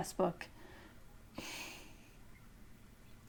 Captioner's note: chuckle